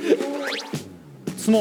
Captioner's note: huff!